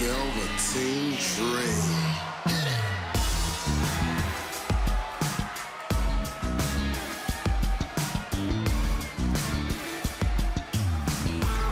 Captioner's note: crowd cheering